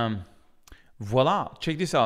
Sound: speaks french

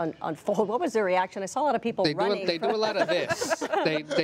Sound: laughter

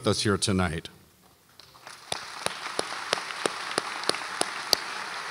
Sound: audience applauds

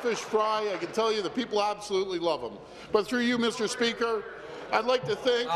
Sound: applause; chuckles

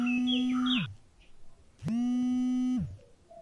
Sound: phone vibrates

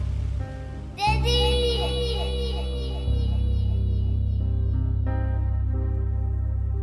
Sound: voice echoing

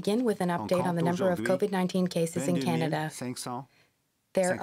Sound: speaking French

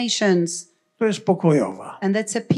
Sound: foreign language

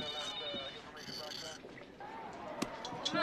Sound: phone ringing

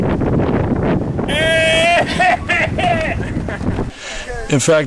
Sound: cries loudly

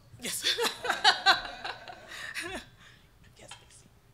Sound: laughing

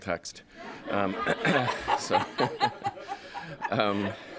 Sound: laughter

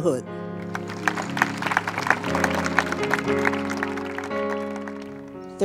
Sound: applause

